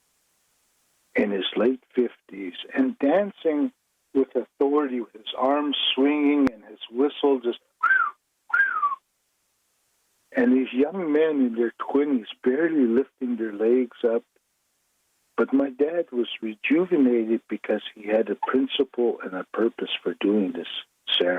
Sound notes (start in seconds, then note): 8.5 whistle